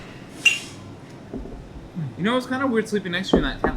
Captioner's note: mugs clink